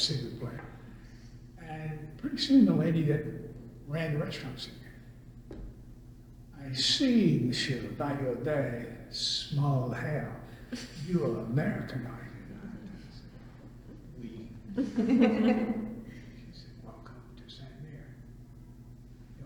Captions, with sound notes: pretty soon the lady that ran the restaurant said, [imitates accent] "I see, Monsieur, by your very small hair that you are American, are you not?" I said, "Oui." [laughter] She said, "Welcome to Sainte-Mère. Your omelette."